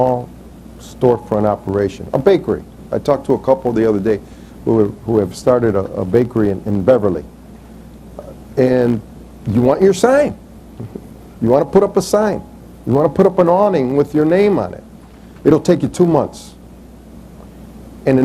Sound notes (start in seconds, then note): 10.8 chuckles